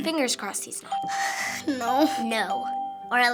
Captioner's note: heavy sigh